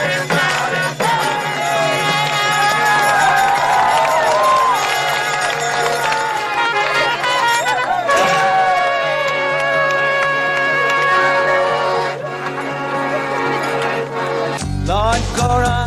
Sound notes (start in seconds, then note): 1.8 Applausi